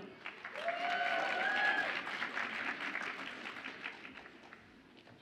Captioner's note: audience applauds and cheers